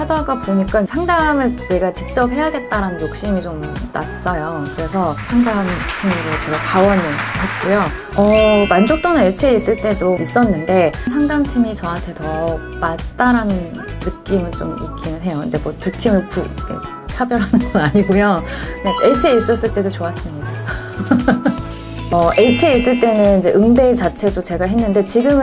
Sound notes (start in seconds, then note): 20.9 laughing